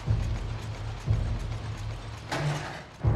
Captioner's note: cog clicks; dramatic music